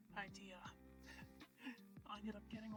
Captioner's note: chuckle